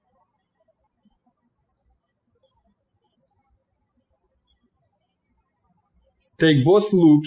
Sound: birds chirping

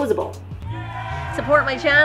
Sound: audience cheers

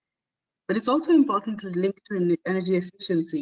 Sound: audio static

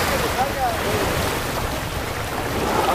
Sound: chatter

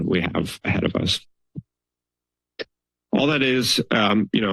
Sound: silence

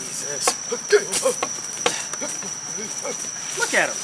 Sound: George mumbling and grumbling

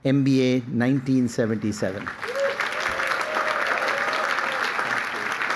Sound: applause

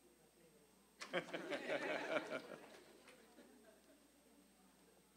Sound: audience laughing

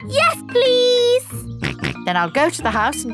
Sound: snorts

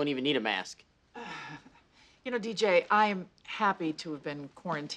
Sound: sighs, chuckles

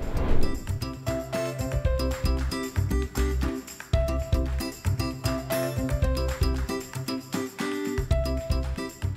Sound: sound Effect, Music

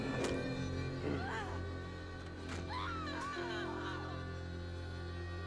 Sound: distant screaming

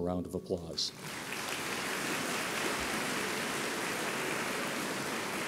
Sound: audience applauds

